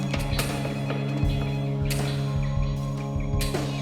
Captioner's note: phone ringing